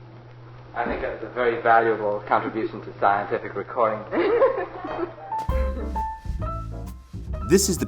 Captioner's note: laughter